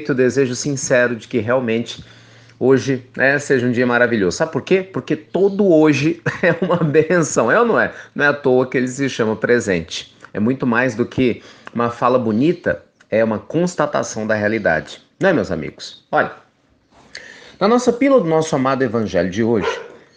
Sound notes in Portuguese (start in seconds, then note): 6.2 risos